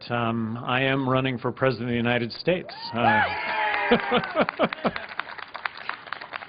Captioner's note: applause